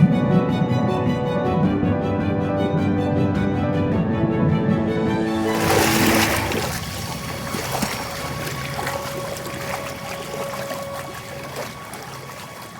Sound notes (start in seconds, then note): 0.1 dramatic orchestral music continues; 5.3 water splashing